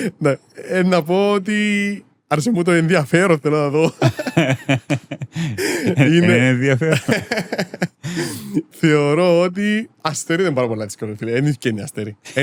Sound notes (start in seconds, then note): 3.9 laughs